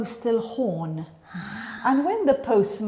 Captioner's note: gasps